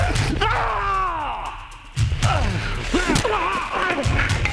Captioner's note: Shepherd screams